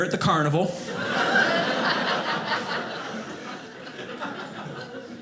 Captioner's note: audience laughing